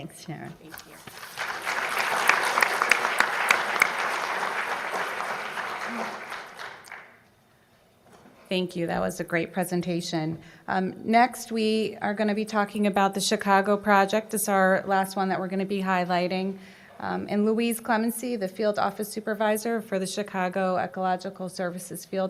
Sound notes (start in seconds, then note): 0.6 applause